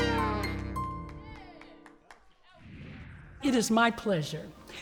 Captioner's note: audience clapping